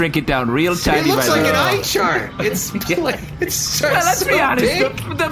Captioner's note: laughing